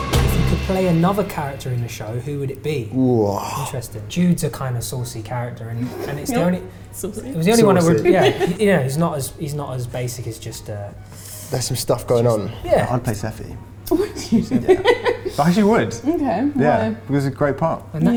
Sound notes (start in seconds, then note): 13.9 laughs